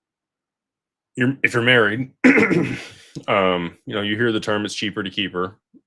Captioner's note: clears throat and cough